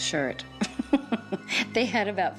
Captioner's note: laughing